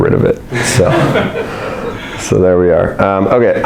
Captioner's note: audience laughs